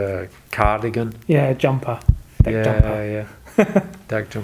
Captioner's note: laughing